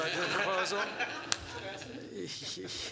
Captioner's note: laughter